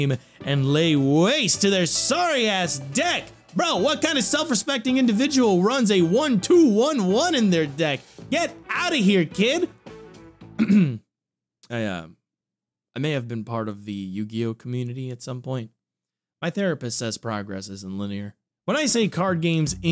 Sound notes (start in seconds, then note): 10.5 clears throat